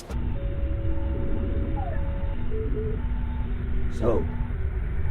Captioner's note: ship beeping